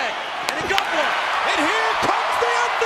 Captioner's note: audience cheering